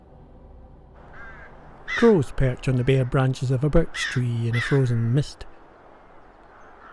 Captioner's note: crowing